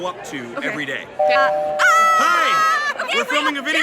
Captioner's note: screaming